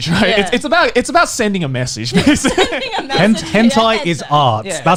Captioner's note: laughing